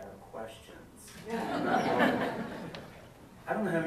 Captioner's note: audience laughs